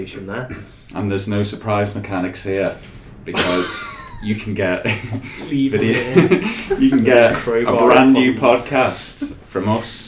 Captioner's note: laughs